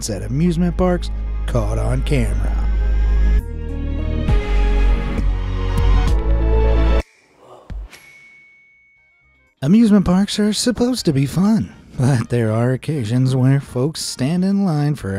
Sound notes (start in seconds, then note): 2.7 bright music; 7.8 star dings